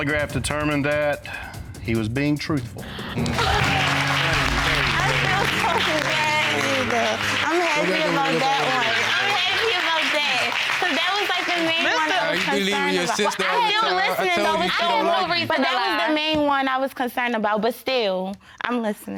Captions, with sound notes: The polygraph determined that he was being truthful. (APPLAUSE) Thank you. Thank you. (MUMBLING HAPPILY) I'm happy about that. I'm happy about that. 'Cause that was the main one I was concerned about. I wasn't even listening... I have no reason to lie. That was the main one I was concerned about, but still...